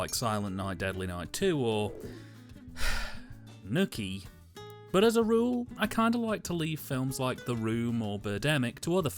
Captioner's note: sigh